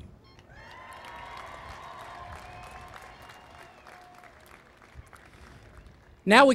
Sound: cheering and Applause

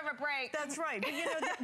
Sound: laughter

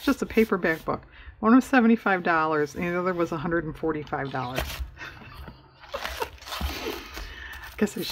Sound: laughs

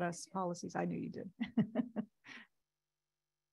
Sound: giggles

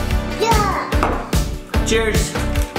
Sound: babbles

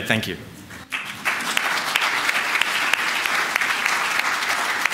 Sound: applause

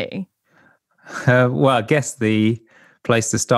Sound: chuckles

